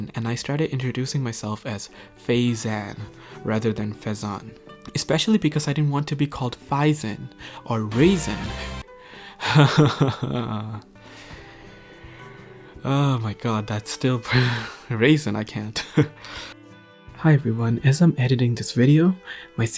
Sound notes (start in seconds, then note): 10.9 inhales